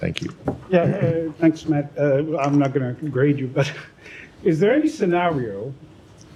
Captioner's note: laughter